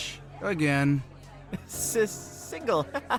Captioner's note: nervous laugh